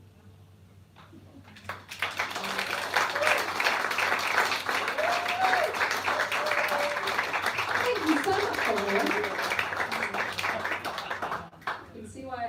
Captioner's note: applause